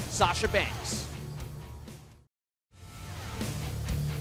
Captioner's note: none